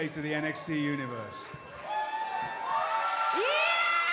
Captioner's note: cheers and applause